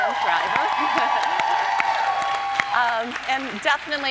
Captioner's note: audience cheering